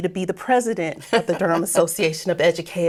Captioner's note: laughing